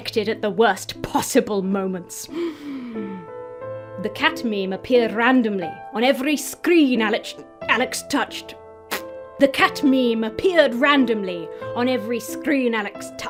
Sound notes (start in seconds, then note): 2.3 inhales sharply; 8.9 blows raspberry